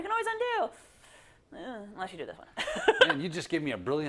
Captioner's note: laugh